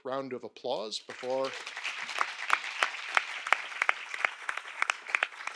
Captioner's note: audience applauding